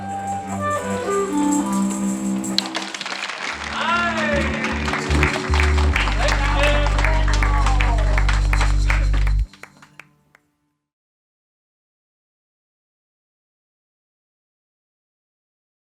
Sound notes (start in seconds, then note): 0.2 instruments playing; 3.4 clapping and cheering; 3.6 bass-y tone